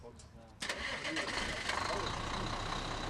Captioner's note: engine starts